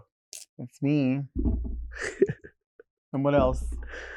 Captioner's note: Nymphia chuckling